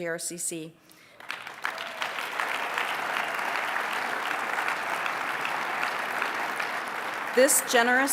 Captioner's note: applause